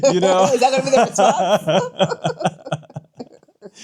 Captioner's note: laughing